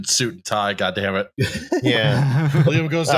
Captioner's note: laughter